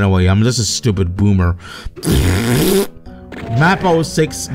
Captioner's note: raspberry